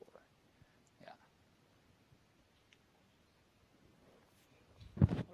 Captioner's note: silence